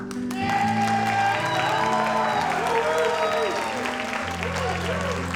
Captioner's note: audience applauds